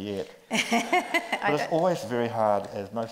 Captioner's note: group laughs